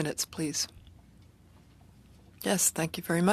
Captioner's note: speaking French